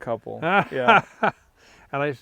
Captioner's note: laughing